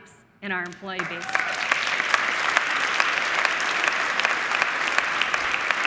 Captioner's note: audience applauding